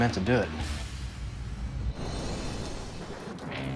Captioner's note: thunder clap